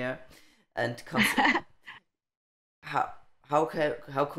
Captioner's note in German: laughing